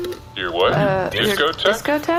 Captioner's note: belt beeps